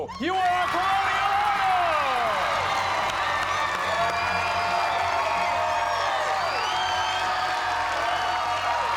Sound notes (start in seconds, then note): 2.9 cheers and applause